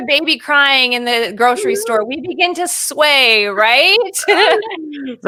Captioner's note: laughing